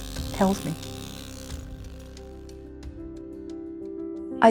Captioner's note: chisel buzzing